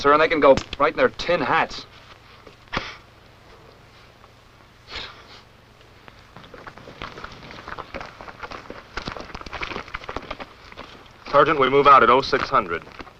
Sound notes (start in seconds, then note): 4.6 soft chuckles; 5.9 footsteps